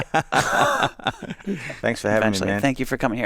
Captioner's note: both laughing